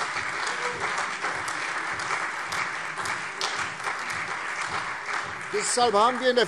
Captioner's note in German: Beifall